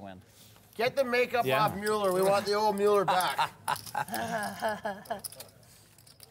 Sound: laugh

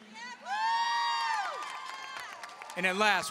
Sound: audience cheering and applauding

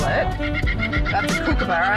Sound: bird noises

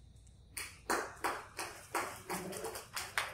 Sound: applause

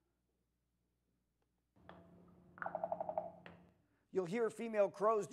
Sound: knocking and Rattling

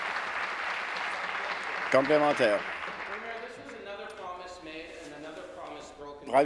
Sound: applause

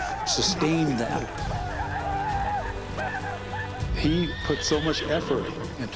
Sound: war sounds

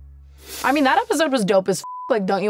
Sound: beep

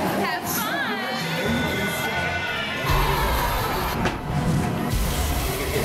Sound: haunted house sounds

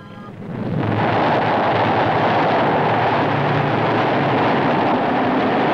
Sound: rocket engines

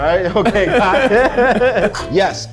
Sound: all laugh

